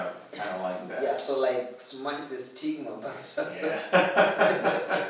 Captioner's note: laughs; laughter